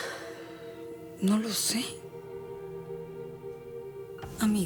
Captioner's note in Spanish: exhala